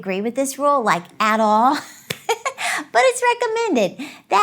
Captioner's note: laughs